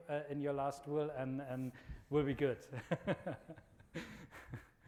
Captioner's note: laughs